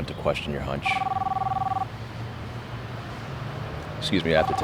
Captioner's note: phone rings